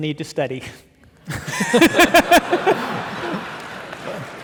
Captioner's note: audience laughing